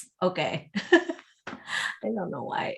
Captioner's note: laughs